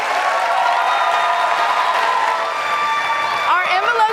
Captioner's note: cheers and applause continue